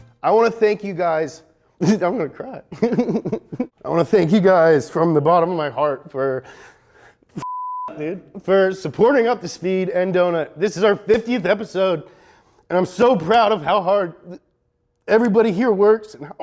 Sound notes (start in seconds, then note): 2.7 laughs; 7.4 beep